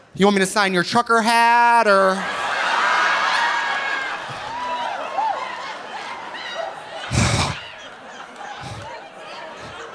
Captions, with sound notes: "You want me to sign your trucker hat, or?" (audience laughing) (audience cheering) (sighs)